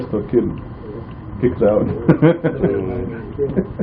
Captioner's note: laughing